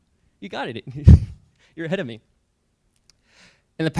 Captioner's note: chuckles